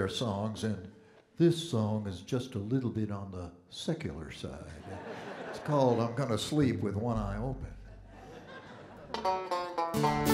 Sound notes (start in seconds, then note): 4.6 audience Laughing